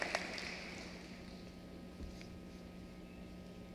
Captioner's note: applause